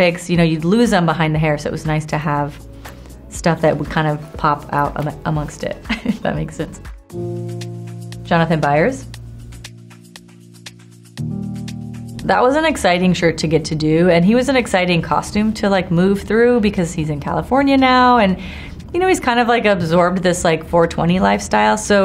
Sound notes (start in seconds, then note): 5.8 chuckles; 9.9 80s music